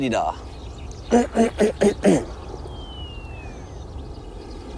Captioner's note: clears throat